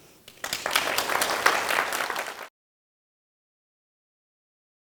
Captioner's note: audience applauds